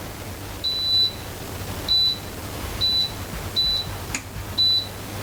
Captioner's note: a series of beeps